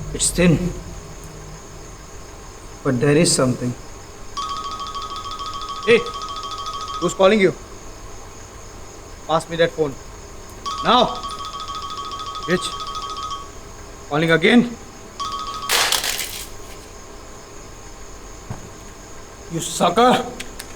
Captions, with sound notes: It's thin But there is something Hey! whose calling you? Pass me that phone NOW! BITCH! calling again. [phone thrashed] You SUCKER!